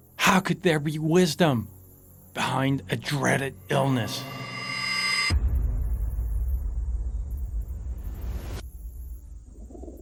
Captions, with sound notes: How could there be wisdom behind a dreaded illness? (cymbal ringing) (cinematic hit)